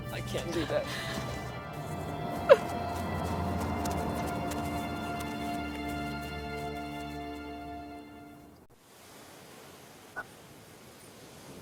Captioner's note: sobbing